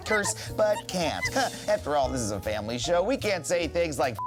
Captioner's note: chuckles